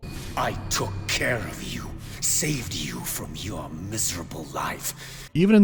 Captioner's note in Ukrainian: занадто драматичним, роздратованим голосом